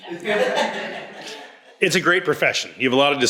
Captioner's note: all laughs